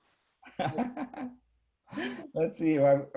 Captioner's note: laughs